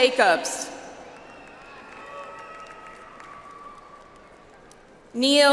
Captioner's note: audience applauds